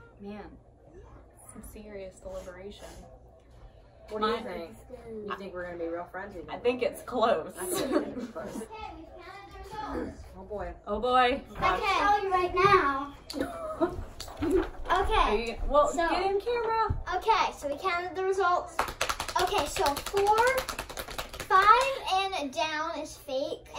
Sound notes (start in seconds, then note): 13.3 laughs; 18.7 drumroll